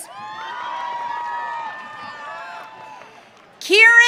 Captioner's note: audience cheering